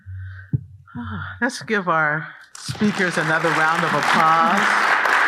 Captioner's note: sighs; audience applauding